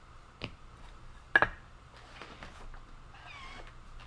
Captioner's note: blocks clacking